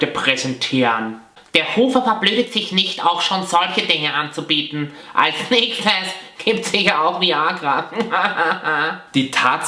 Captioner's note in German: Haha